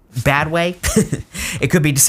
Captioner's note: laughs